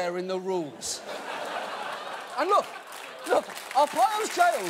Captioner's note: audience laughing, applauding